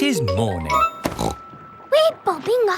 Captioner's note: snorts